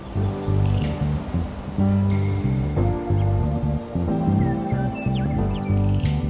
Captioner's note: birds chirping; upbeat music